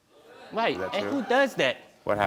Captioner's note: audience moaning